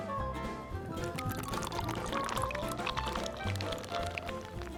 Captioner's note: liquid bubbling